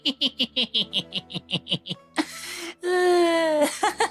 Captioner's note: laughing